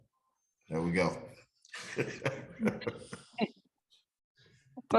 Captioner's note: laughs